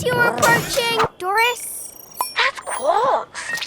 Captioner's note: wristCom beeping